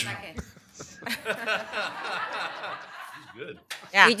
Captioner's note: laughter